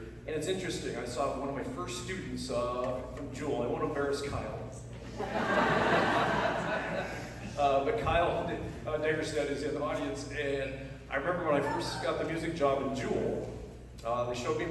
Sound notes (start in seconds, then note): 5.0 laughter